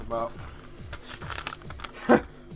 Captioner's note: rustling; chuckle